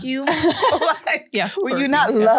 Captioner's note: everyone laughs